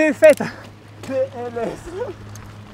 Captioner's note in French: rires